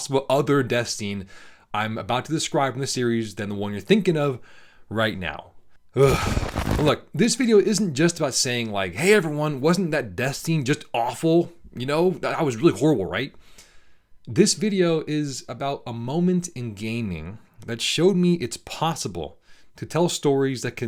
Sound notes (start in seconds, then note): 6.0 deep breath